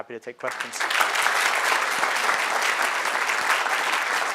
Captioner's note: crowd applauding